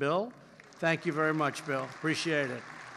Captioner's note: applause